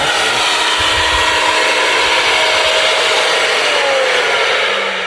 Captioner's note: extractor whooshing